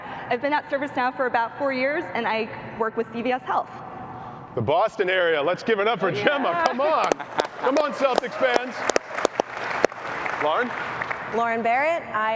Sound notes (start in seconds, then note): 6.2 laughs; 9.0 applause